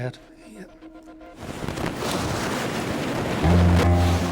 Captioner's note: boat droning; water whooshing; intense music